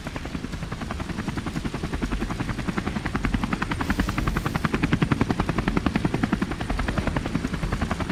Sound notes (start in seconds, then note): 0.0 rescue helicopter enters the area